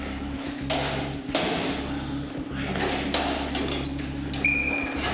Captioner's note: metal sounds